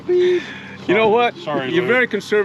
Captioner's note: laughing